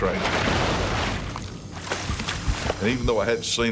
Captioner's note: splash